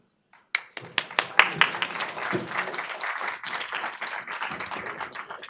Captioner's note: audience applauding